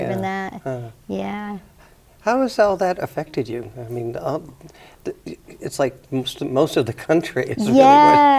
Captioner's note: chuckles